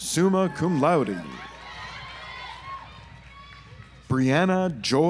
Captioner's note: audience applauds